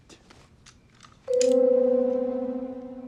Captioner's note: click